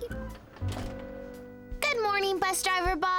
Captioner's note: bus doors opening